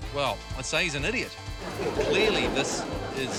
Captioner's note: laughter